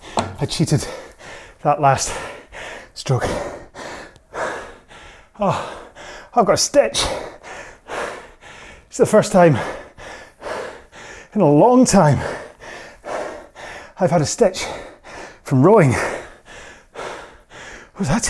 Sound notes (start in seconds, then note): 3.7 breathing heavily